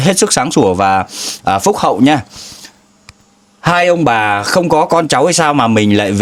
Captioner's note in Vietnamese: khịt mũi